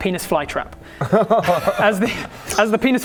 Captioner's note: groan